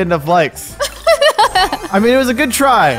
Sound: laughs

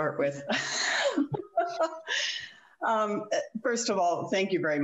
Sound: giggles

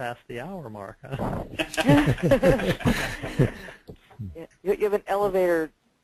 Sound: laughter

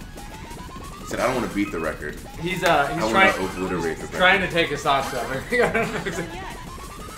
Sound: laugh

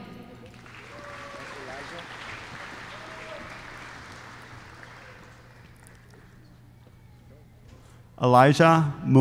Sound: applause

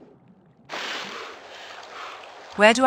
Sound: breathing

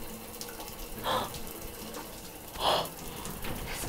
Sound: gasping

